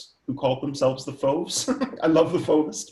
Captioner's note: laughs